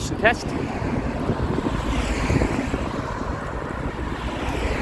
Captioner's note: cars rev past